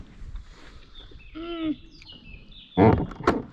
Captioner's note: bird song